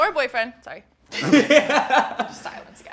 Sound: laughs

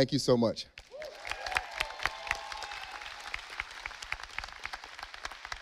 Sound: audience applauding

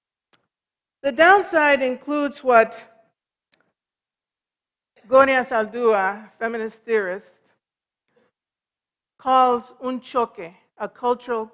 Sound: foreign language

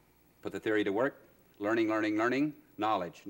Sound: none

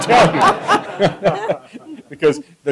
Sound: laughter

